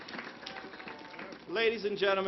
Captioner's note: applause